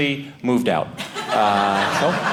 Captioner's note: audience laughing